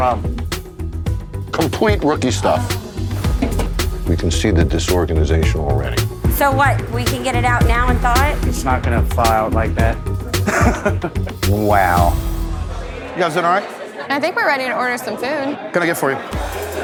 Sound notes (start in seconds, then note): 0.3 slow tempo music; 10.3 laughs